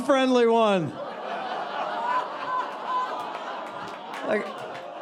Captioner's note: audience laughing and groaning